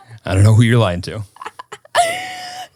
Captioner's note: laughing